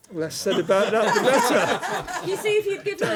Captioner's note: laughter